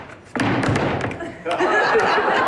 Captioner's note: furniture clattering; feet stomping; attendees laughing